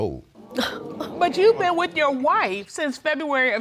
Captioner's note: audience gasping